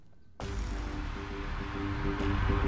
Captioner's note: Mouthing